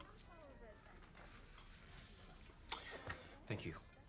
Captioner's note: indistinct chatter